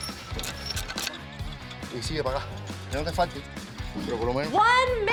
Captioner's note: speaking Spanish